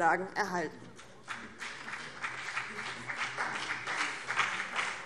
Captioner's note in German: Beifall BÜNDNIS 90/DIE GRÜNEN